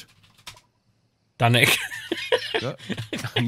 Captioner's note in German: lachend